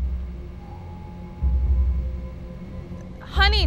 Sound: doorbell rings

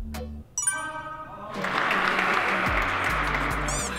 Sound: thunderous applause after each shoot

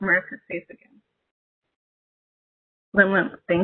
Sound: speaking in native language

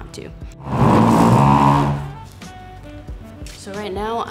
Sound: couch scraping

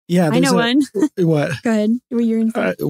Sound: laughs

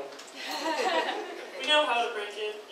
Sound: audience laughs

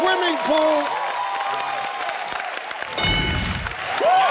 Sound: cheering; ding

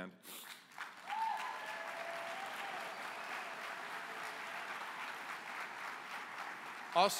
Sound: applause

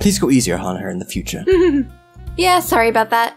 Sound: chuckles

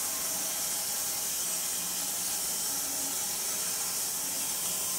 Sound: saw whirring

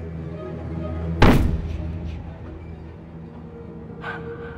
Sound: loud bang

